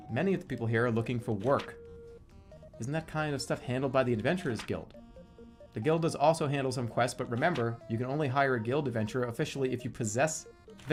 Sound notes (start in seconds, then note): none